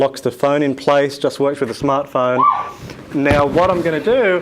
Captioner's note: arrow whistles